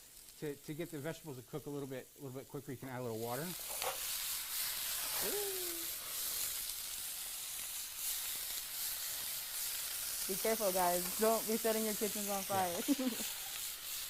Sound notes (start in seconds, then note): 2.7 sizzles loudly; 12.7 laughs